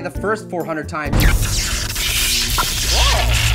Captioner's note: zapping noise